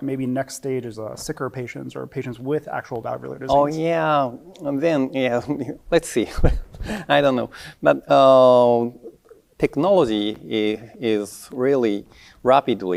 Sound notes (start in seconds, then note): 6.3 chuckles